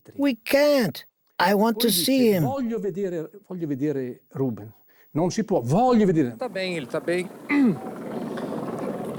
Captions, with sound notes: "We can't." "I want to see him." [Italian spoken audio] He's fine, he's all right.